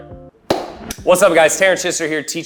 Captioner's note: hands clapping